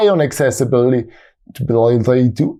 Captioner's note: thick Austrian accent